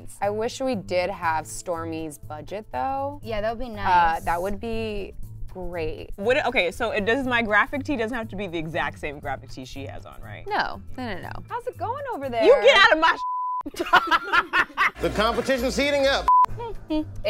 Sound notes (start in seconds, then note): 13.2 beep; 13.6 girls laughter